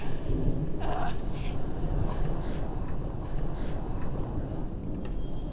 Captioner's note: gasping